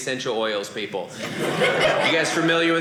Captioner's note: audience laughing